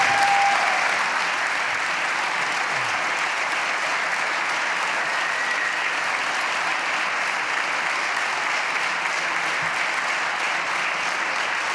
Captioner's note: applause